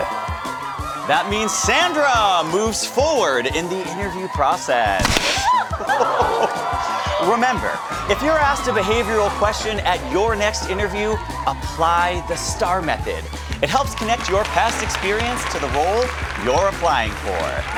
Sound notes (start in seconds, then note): 0.1 audience cheering; 5.0 confetti cannons pop; 5.3 laughing; 5.6 exclaims; 7.2 audience continues cheering